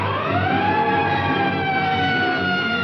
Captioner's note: sirens